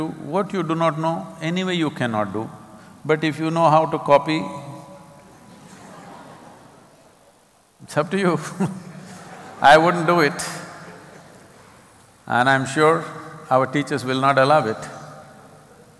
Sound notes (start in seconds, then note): 5.4 laughter; 8.4 laughter